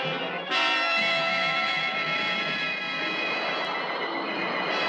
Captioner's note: lasers blasting